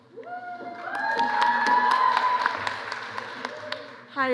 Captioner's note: cheering